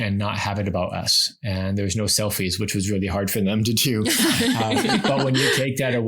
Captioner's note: laugh